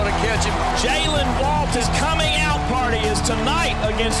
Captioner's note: voiceover